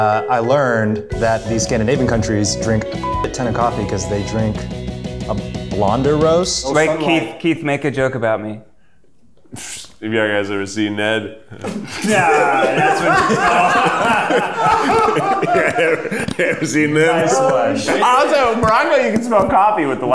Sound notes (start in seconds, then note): 2.9 beep; 9.4 scoffs; 11.5 all laughing; 15.8 laughing